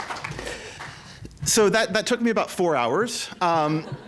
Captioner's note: applause